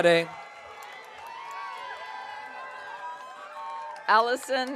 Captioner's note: audience cheering